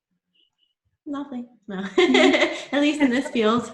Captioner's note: laughs